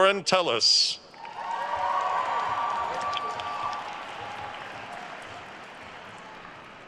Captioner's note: attendees cheering and applauding